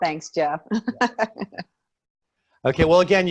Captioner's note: laughing